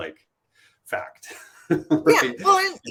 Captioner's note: laughter